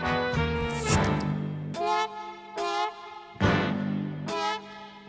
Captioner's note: soda fizzing; sultry jazz music